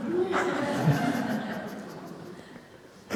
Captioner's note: laughter